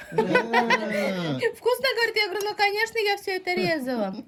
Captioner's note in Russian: смех